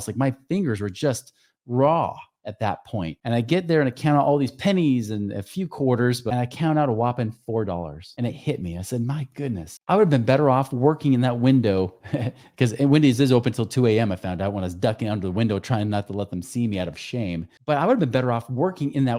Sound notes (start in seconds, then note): 12.0 laughing